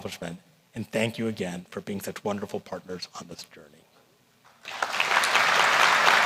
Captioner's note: applause